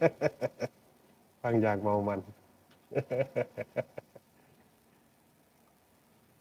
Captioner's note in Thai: เสียงหัวเราะ